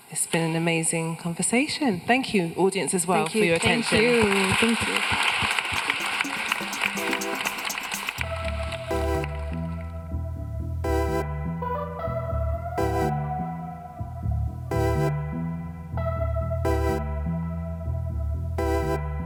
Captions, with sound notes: It's been an amazing conversation. Thank you, audience as well- - Thank you. - For your attention. - Thank you. - Thank you. (audience applauding) (gentle music)